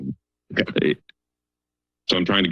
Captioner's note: pause